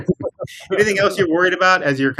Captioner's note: speakers laughing